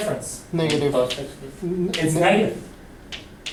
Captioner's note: voiceover